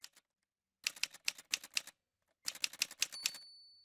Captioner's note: typewriter sounds